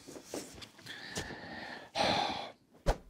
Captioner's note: sighs